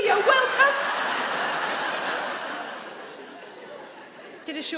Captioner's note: audience laughing